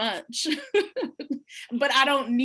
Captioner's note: laughs